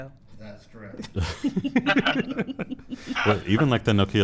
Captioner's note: laughter